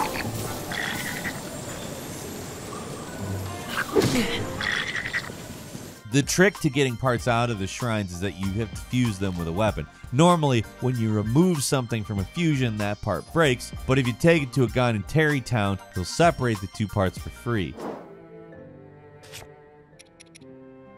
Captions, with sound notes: (monster grumbles) (Link grunts) The trick to getting parts out of the shrines is that you have fused them with a weapon. Normally when you remove something from a fusion, that part breaks, but if you take it to a guy in Tarrey Town, he'll separate the two parts for free. (gentle music)